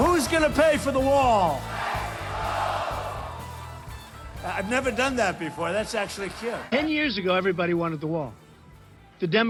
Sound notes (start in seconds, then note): 0.0 crowd; 1.8 crowd